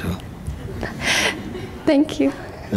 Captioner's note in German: Lachen; lacht